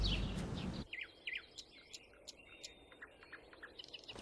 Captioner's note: birds chirping